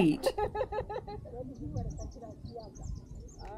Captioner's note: laughter; background chatter